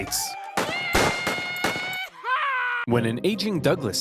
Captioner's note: gunshots